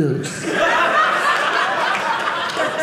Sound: audience laughing

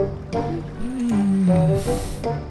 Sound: annoyed groan

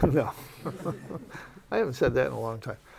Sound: laughs

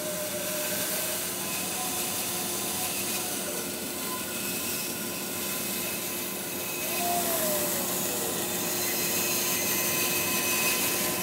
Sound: saw buzzes

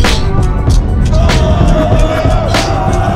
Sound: screaming

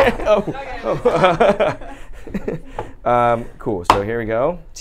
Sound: laughs

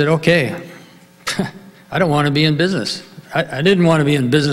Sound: laughs

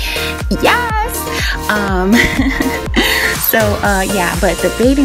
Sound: laughing

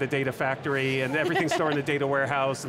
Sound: laughs

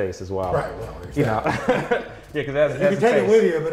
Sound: laughs

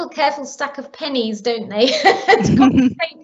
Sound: laughing

